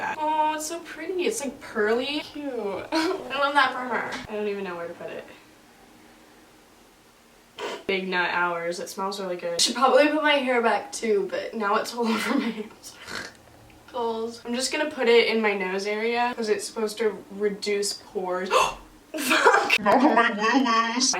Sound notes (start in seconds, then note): 12.9 snorts; 18.5 gasps